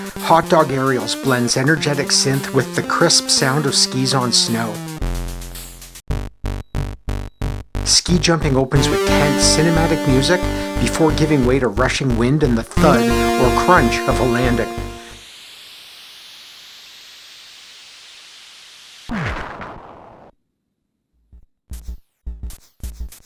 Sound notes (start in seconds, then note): 15.7 rushing air; 19.1 crash